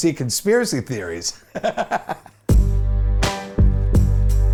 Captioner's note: laughs